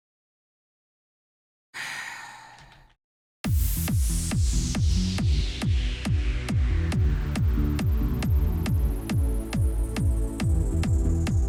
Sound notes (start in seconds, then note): 1.7 overly dramatic, world weary sigh; 3.4 timelapse Music